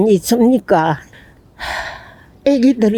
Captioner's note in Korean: 깊은 한숨